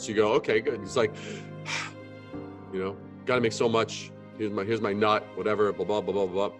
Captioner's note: sigh